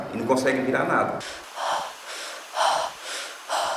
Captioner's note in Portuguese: Respiração ofegante